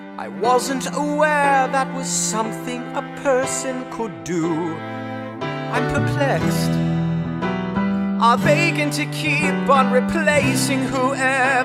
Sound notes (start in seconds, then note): none